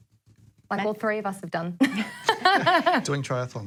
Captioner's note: laughs